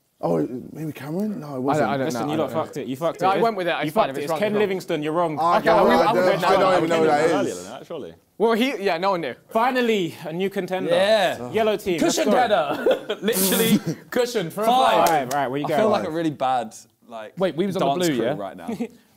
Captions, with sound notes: - Maybe Cameron? No it wasn't. - I don't know. - Listen y'all you fucked it, you fucked it. It's Ken Livingstone, you're wrong. (crowd mumbling) - I literally don't know who that is. - Well he, yeah, no one knew. Finally, our new contender, yellow team. - Cushion contender - Literally cushion from- - Five. - Right, well you got it right. - I feel like a really bads dance crew right now.